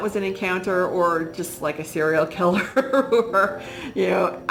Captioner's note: laughs